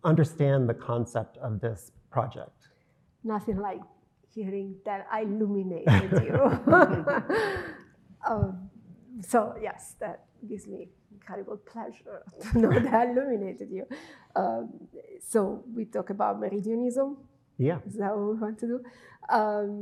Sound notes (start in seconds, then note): 5.8 both laughing; 12.4 chuckling